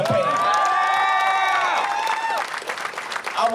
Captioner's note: applause